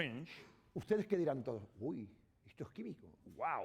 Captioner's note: speaking spanish